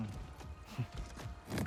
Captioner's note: laugh